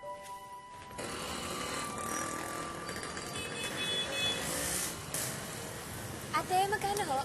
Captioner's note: vehicle engines rumbling